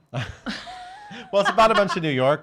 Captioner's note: laughs